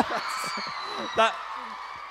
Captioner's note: cheering/ laughing